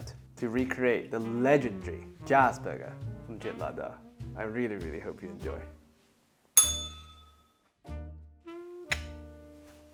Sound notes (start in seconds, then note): 6.6 bell rings